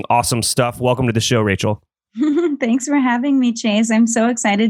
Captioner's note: laughs